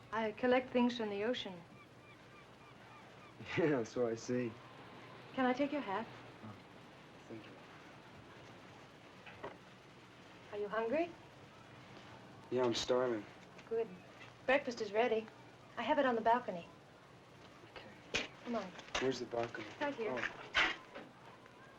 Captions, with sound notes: I collect things from the ocean. - (chuckles) Yeah, so I see. - Can I take your hat? - Oh...thank you. - Are you hungry? - Yeah I'm starving. - Good...breakfast is ready. I have it on the balcony. - Okay. - Come on. - Where's the balcony? - It's right here.